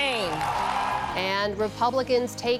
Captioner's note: cheering